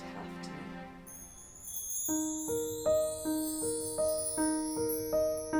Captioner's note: light piano music; chimes tinkling